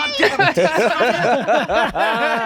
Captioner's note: all laughing